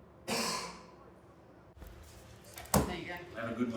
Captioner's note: coughing